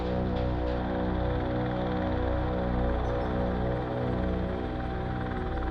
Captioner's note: helicopter rotors whirring